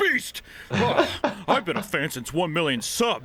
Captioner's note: laughs